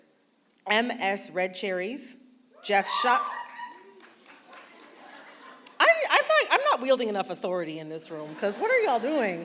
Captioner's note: yelps